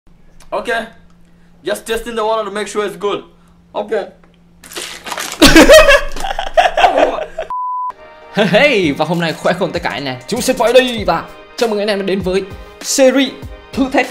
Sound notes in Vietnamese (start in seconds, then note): 5.4 cười